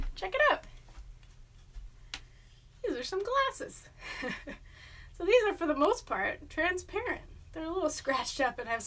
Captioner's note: laughs